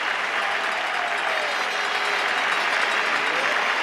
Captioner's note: wild cheering, horns blaring